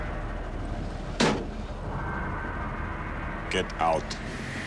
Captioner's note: door slamming